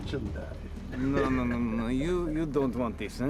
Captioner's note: chuckles